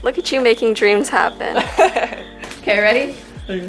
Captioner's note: laughs